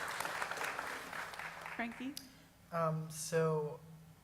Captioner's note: applause